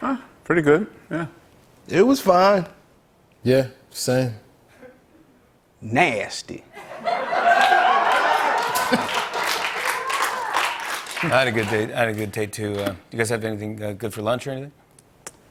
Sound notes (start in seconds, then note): 6.7 laughter; 9.1 applause